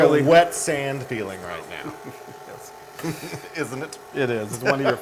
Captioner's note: laugh